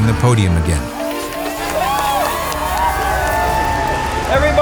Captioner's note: crowd cheering